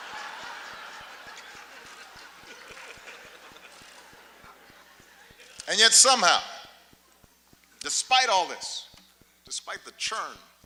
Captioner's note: laughter